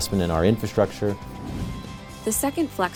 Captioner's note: swoosh sound effect